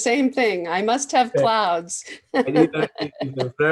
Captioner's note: chuckles